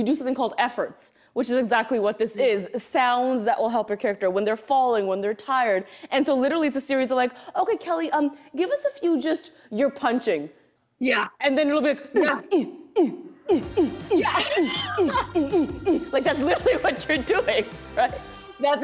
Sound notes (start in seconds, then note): 13.4 laughs; 13.4 grunting